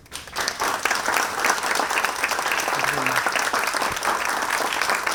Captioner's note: audience applauds